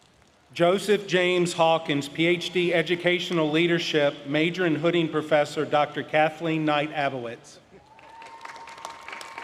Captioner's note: applause